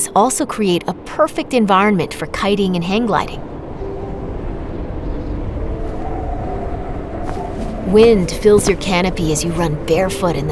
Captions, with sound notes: also create a perfect environment for kiting and hang gliding. [soft piano music playing] [wind blowing] Wind fills your canopy as you run barefoot